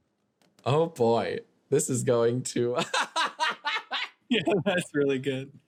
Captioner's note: laughing